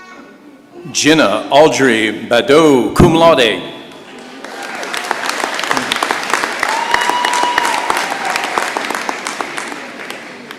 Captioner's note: applause